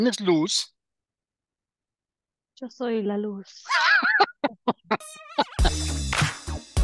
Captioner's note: laughs